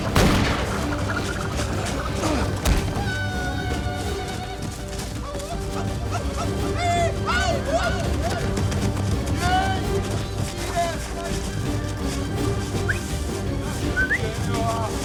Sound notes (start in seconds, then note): 8.9 tribal calls